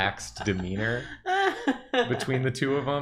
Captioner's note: laughing